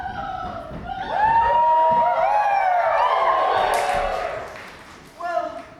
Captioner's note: audience cheers